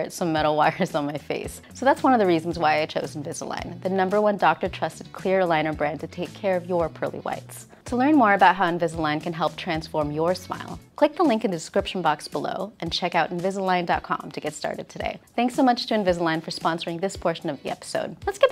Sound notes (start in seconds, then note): none